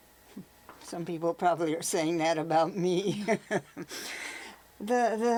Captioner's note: laughs